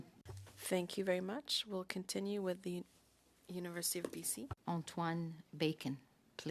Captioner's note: speaking French